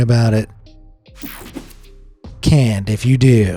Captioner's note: mellow music; graphic whooshes